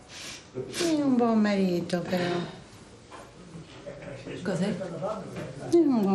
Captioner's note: conversing in foreign language